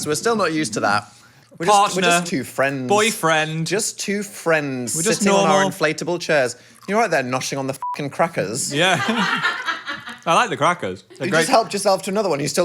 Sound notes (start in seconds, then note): 7.8 beep